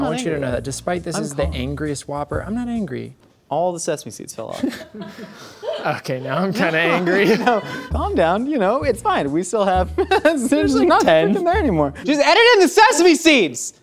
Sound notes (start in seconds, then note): 4.5 laughs; 9.8 laughs